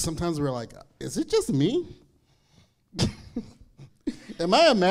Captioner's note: laughing